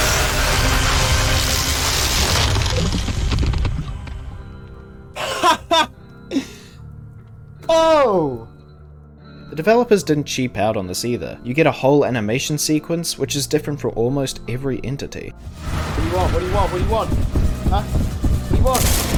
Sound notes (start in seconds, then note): 5.2 laughs